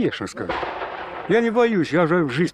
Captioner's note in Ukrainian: звук вибуху